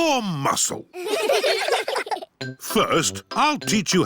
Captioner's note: all giggling